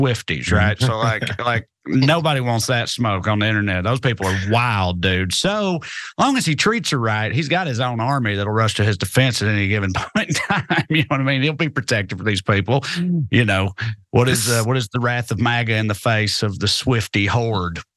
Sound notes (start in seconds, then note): 9.5 laugh